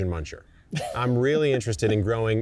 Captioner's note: laughing